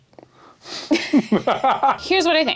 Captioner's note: laughing